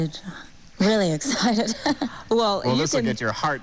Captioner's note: laughs